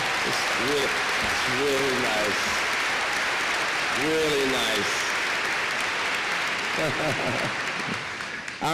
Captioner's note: applause